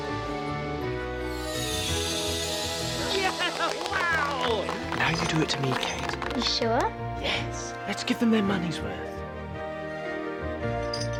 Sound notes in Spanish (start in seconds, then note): 2.9 aplausos